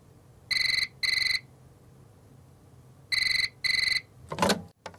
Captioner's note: phone ringing